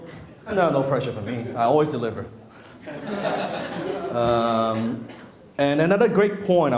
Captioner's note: laughing